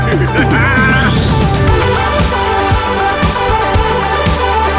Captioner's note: laughs